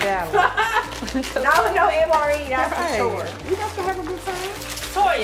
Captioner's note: laughs